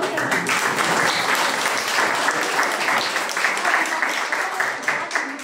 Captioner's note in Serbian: аплауз